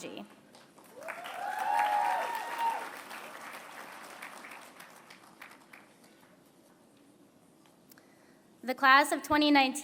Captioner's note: applause